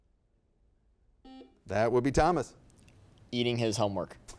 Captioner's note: buzzer beeps